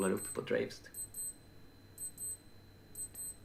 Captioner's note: loud beeping starts